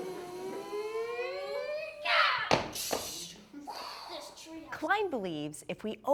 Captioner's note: imitating shuttle landing